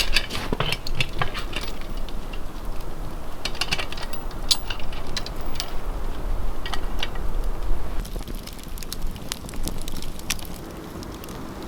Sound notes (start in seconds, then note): 8.4 fire crackling